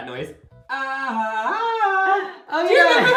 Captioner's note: repeats the sounds, but it's auto-tuned